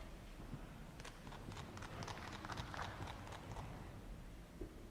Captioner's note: clapping